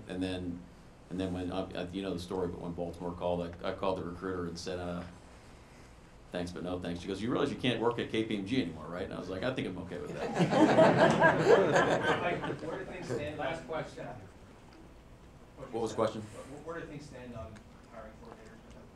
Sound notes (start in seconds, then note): 10.1 audience laughing